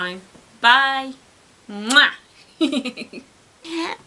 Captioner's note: giggles